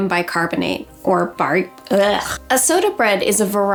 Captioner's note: groaning